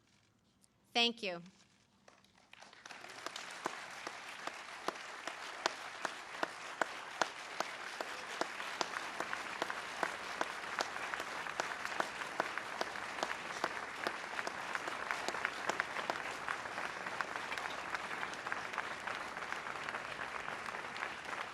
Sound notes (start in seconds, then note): 11.0 applause